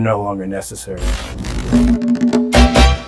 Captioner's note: television static